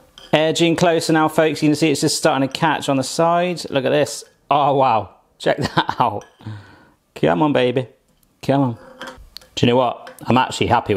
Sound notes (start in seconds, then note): 6.2 laughs